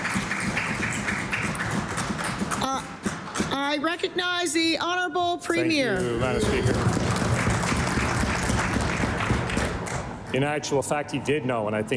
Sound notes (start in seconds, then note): 1.4 applause